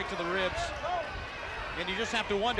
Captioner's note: crowd chatter